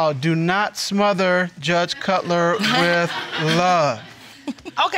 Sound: audience laughing

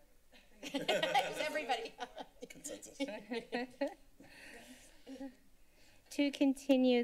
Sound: laughter

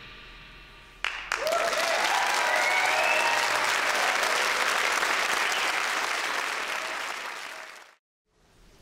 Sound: applause, cheering

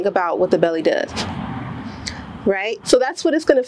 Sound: strong exhale

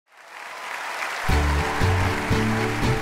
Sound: applause

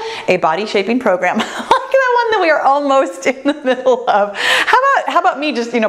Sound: laughs; laughs

